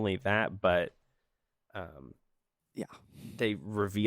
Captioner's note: silence